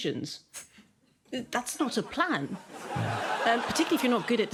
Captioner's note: studio audience laughs